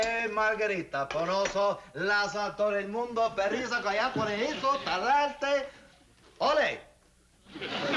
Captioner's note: speaking spanish